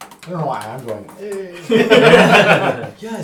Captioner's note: all laugh